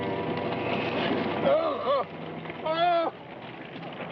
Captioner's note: groaning